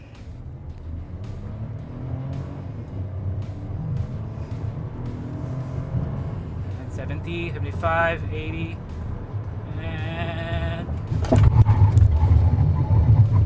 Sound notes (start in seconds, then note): 0.2 engine revs; 11.2 thud